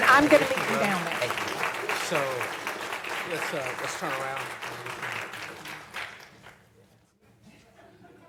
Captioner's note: applause